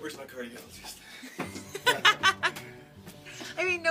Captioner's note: laughing